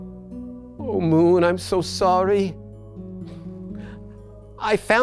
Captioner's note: sniffles